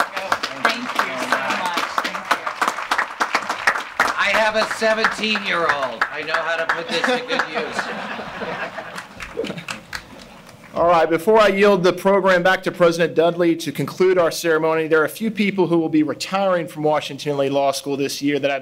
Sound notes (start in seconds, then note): 2.7 audience applauding; 8.4 audience laughing